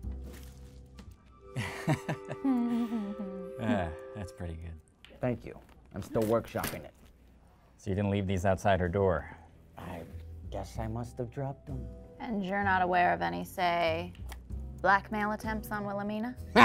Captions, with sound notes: *Fig and Ford laugh* That's pretty good. Thank you. I'm still workshopping it. So you didn't leave these outside her door? I guess I must've dropped them. And you're not aware of any, say, blackmail attempts on Wilhelmina?